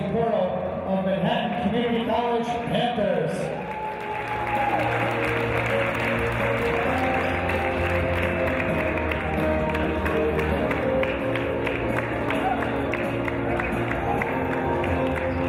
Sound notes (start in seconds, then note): 3.8 cheers and applause; 6.7 soft rock music on sound system